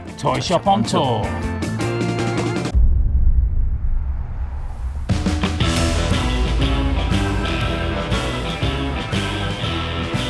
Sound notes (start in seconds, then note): 2.0 bright, upbeat music; 2.7 echoing boom; 5.6 bright, upbeat music